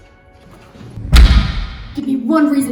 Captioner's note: the crash of human on glass